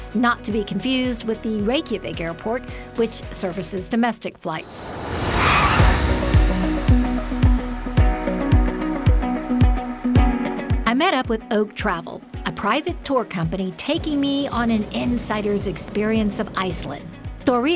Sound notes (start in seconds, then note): 4.6 engine roaring; 5.0 upbeat music